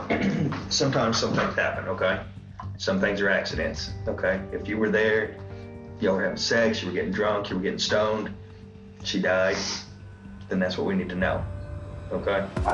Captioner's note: clears throat